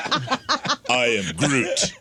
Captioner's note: laughing